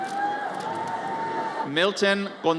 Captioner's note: audience cheers